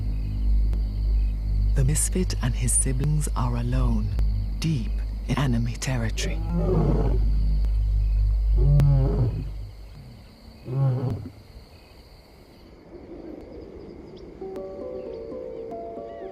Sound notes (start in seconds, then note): 6.2 lion roaring